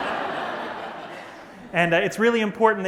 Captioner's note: laughter